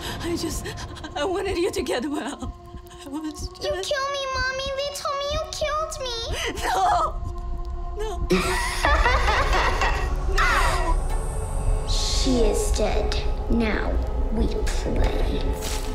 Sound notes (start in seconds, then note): 8.3 laughter